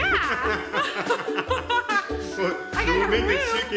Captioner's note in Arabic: يضحك